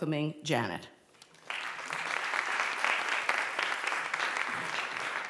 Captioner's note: applause